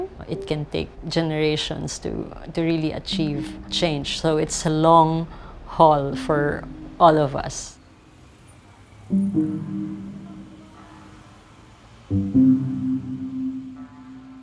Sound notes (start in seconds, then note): 8.0 soft traffic noises